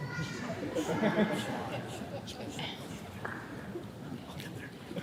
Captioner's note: laughing